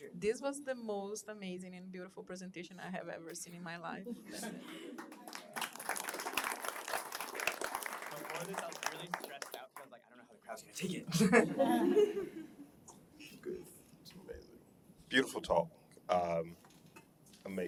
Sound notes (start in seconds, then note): 4.6 applause; 11.1 laughter